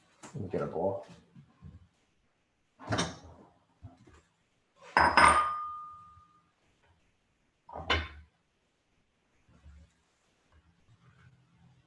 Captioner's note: silence